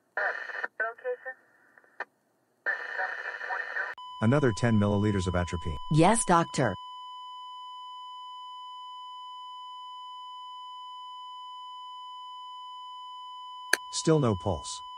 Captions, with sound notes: Another 10 mililiters of atropine. Yes doctor. [ heart monitor flatline ] Still no pulse.